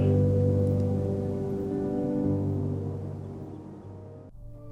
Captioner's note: wind gusting